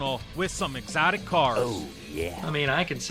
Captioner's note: oh yeah sound effect